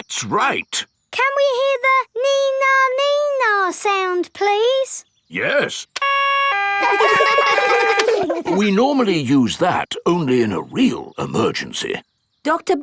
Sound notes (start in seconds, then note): 6.0 siren wailing; 6.0 siren stops; 6.7 kids laugh